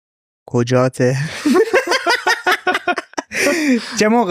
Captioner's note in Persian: خنده